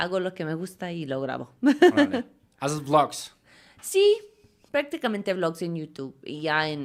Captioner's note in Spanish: risas